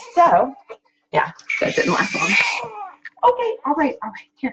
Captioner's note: baby cries